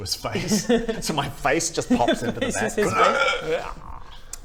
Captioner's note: hrrkhkh